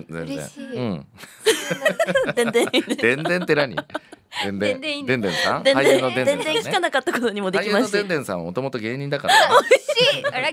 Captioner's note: laughs